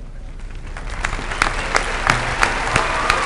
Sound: applause

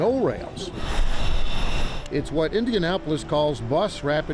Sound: machinery scrapes

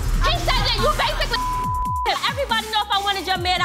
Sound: dramatic music; beep

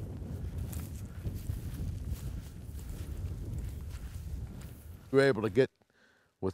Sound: wind gusting

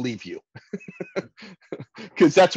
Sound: laughter

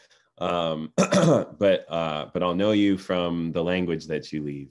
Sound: clears throat

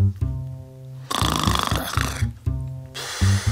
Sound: snores

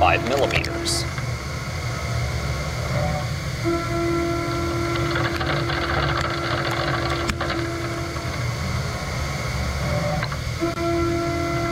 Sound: machining noises

